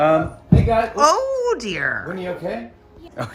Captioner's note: thud